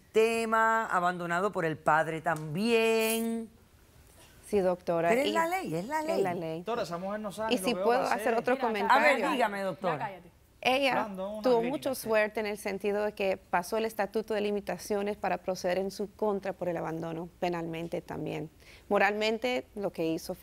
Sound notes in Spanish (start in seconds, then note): 8.4 Hablan al unísono